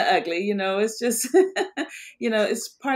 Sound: laughs

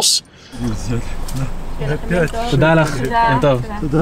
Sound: speaking in Hebrew

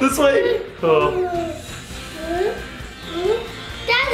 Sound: sighing

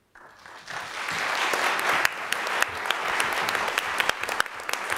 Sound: audience clapping

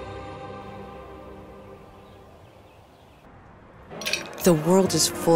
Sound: lively music; ice clinking; birds tweeting

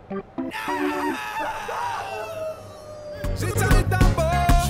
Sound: dog howling

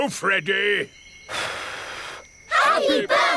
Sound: blows

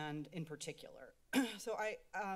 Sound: clears Throat

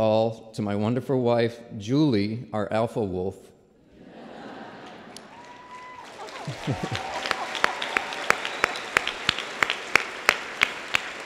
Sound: laughter and applause

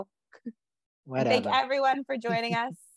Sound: laughs

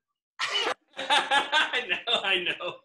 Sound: laughs

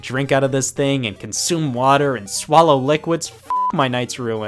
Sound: beep

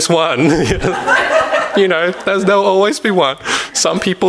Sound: audience laughs

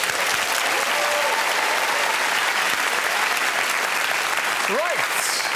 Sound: cheers and applause

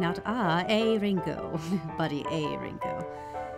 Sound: laughs

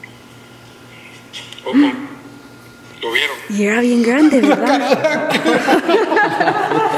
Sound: laughs

